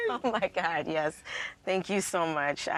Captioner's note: laughs